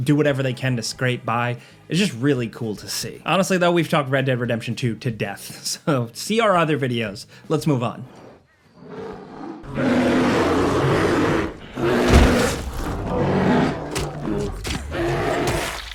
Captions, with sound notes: do whatever they can to scrape by, is just really cool to see. Honestly, though, we've talked "Red Dead Redemption 2" to death, so see our other videos. Let's move on. (bear growls and roars)